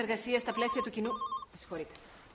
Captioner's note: phone ringing